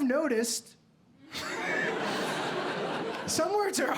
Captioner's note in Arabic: يضحك